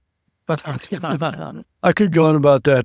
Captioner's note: laughter